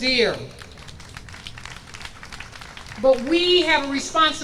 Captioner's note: audience applauds